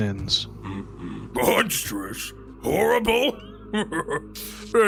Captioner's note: laughs